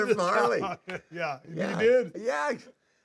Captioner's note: laugh